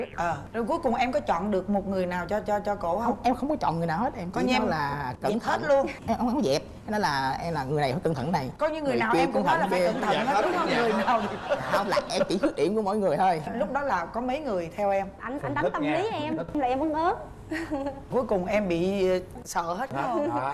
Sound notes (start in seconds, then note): 10.0 laughing